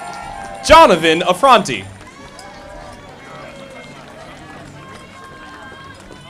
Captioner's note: audience applauding